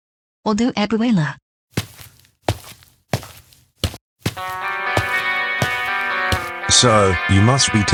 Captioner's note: footsteps